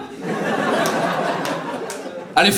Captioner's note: audience laughs